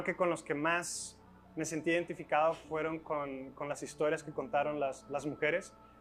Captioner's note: speaking in Spanish